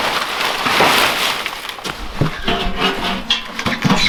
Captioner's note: bark rustling; metal bucket rattling